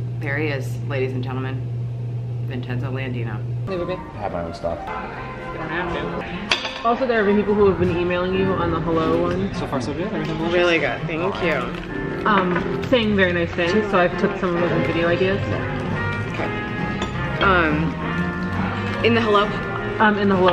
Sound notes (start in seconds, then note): 4.0 background chatter